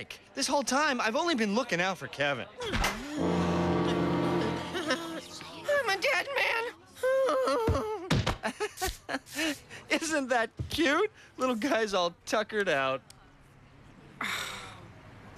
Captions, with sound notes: OOKING OUT FOR KEVIN. I'M A DEAD MAN. ( groaning ) ( laughing ) ISN'T THAT CUTE? LITTLE GUY'S ALL TUCKERED OUT.